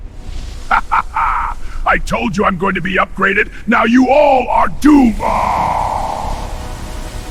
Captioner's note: evil Laughs